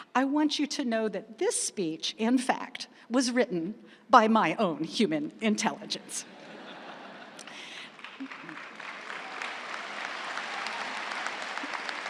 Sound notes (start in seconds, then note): 6.2 crowd laughing; 7.3 crowd applauding